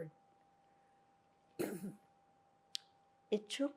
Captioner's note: clears throat